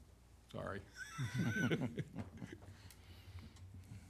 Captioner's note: laughs